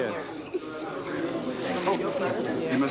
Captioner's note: crowd talking